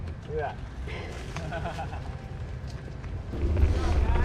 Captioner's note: laughs